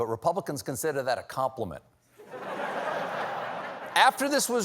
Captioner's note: laughter